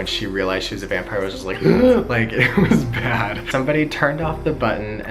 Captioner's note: gasping